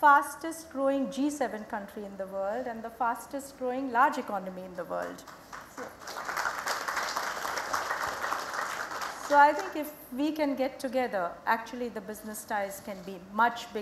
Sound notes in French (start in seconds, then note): 8.1 Applaudissements